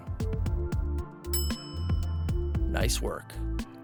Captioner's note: bell dings